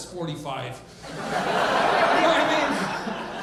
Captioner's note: audience laughing